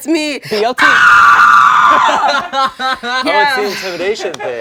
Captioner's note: screams